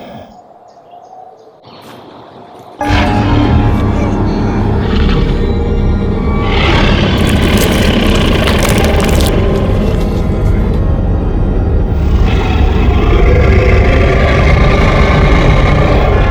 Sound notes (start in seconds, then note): 3.0 dramatic music; 5.2 squishing; 6.2 snarling